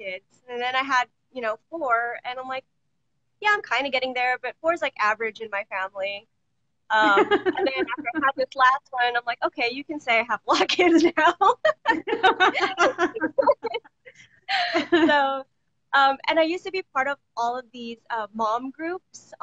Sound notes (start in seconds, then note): 7.0 laughs; 11.6 both laughing